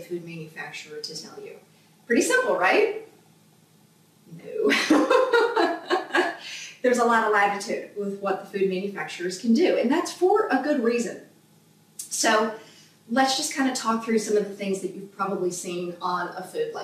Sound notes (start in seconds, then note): 4.6 laughs out loud